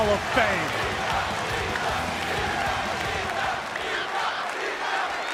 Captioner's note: audience chanting